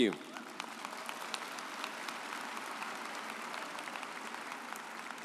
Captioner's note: audience applauds